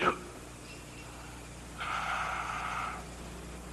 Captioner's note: labored breathing